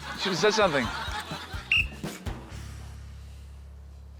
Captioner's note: blows whistle